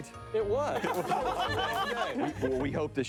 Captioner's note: people laughing